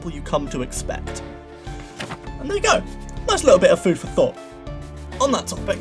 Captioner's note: paper rustling